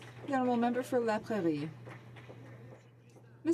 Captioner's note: some Applause